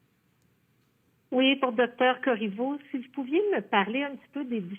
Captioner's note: speaking French